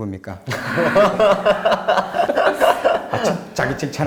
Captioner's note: everyone laughs